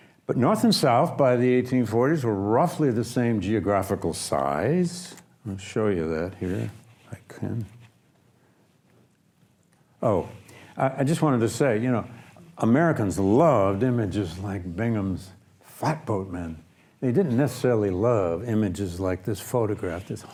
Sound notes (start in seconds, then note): none